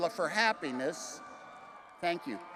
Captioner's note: attendees cheering